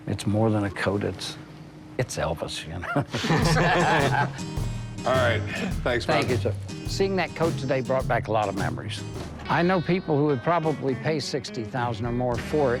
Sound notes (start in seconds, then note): 2.8 laughter